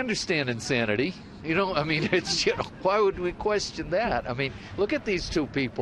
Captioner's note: laughs